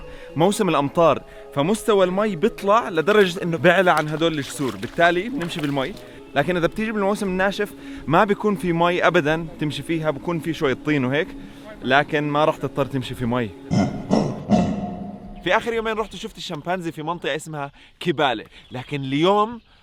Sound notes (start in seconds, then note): 13.7 chimp grunts